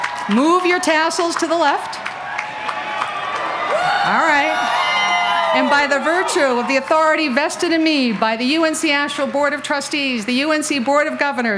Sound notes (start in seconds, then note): 2.3 continued cheering and applause